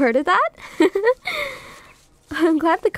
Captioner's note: soft laugh